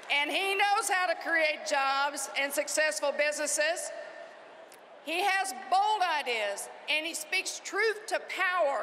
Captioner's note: cheering and applause